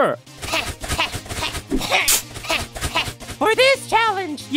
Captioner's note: running; Flower panting